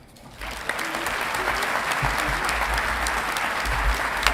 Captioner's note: audience clapping